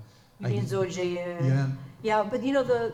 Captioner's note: speaks in foreign language